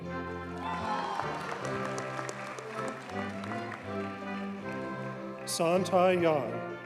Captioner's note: audience cheers and applauds